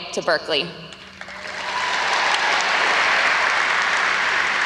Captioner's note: audience applauds